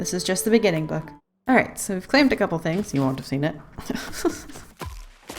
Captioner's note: laughs